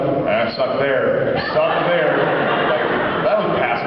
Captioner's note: laughs